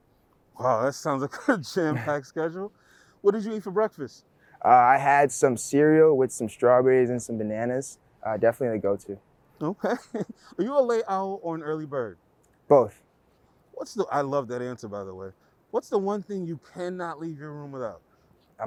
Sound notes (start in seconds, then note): 9.6 laughs